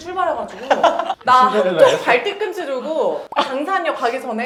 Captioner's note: laughing hard